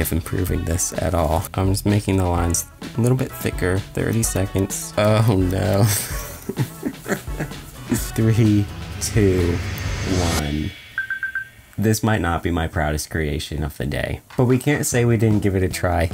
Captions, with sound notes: improving this at all? I'm just making the lines a little bit thicker. 30 seconds, oh no. (laughs) Three, two, one. This might not be my proudest creation of the day, but we can't say we didn't give it a try.